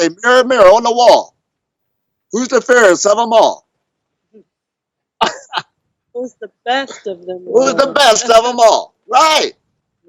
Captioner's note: laughs